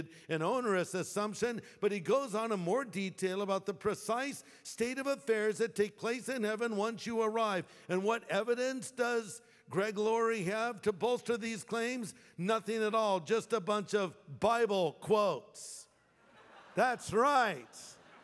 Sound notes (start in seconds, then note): 16.1 laughter